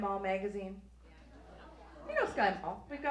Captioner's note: audience agrees